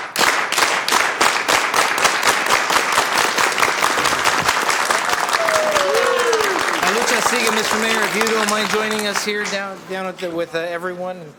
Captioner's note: applause